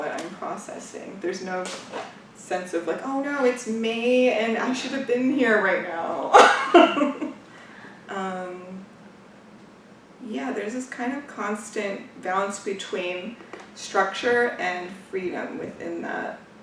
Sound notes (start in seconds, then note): 6.4 laughs